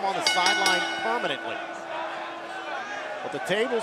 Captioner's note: bell